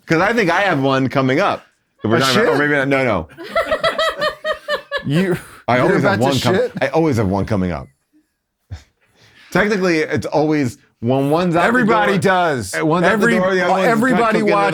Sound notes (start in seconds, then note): 2.0 all laughing